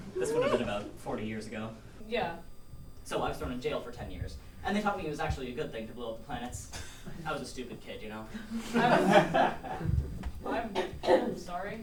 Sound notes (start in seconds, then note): 8.6 audience laughs